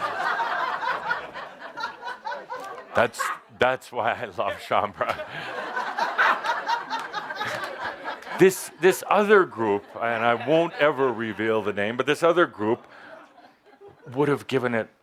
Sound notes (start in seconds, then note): 0.0 laughter; 4.7 Adamus chuckling, more laughter